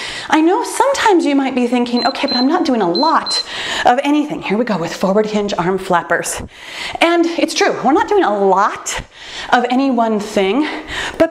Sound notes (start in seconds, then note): 1.9 timer beeps